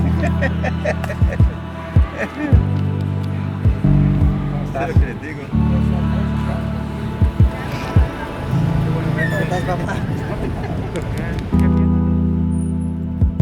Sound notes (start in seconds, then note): 0.0 man laughs; 4.9 speaking foreign language